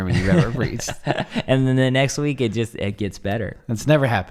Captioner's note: laughs